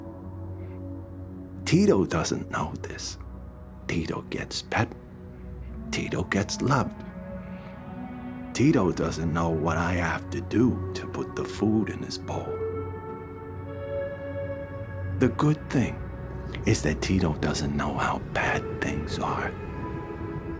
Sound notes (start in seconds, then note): none